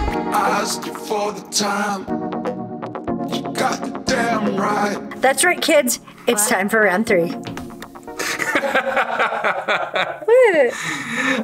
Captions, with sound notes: - That's right kids it's time for round 3. (laughing) - Look at this!